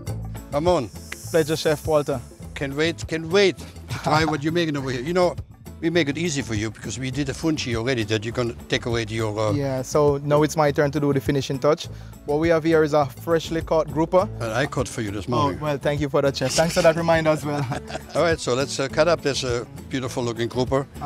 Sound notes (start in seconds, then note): 16.4 both laugh